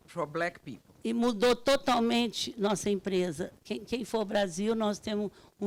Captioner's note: speaking Portuguese